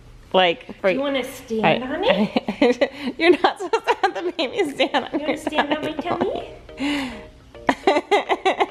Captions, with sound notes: - Do you wanna stand on it? (laughing) - You're not supposed to have the baby stand on your belly. (laughing)